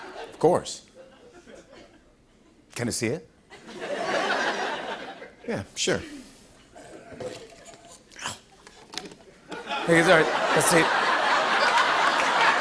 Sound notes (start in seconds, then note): 3.5 laughter; 9.5 laughter and applause